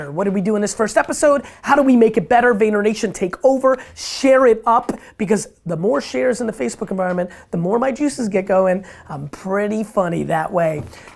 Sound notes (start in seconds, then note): none